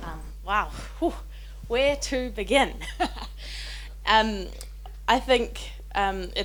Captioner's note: chuckles